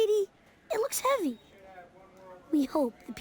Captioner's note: people murmuring